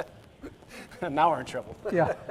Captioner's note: chuckles